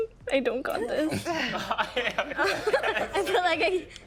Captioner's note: all laughing